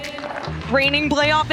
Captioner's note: laughing